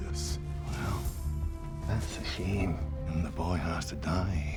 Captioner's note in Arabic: لهجة اسكتلندية